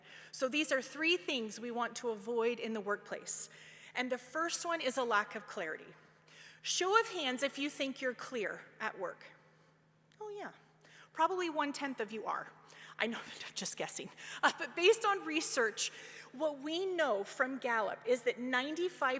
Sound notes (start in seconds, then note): 14.1 laughs